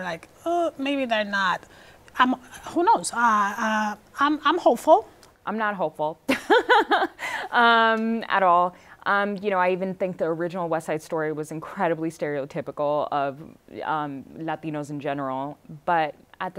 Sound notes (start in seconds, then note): 6.4 laughing